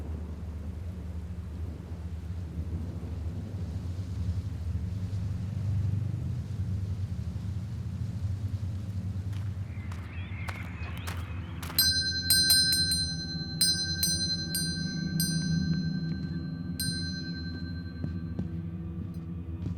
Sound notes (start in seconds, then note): 9.2 birds chirping; 11.6 bell chimes; 15.2 looming music